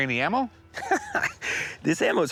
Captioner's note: laughs